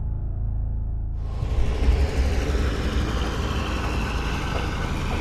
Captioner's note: jeep engine whirring